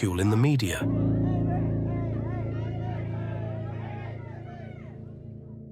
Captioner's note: reporters chattering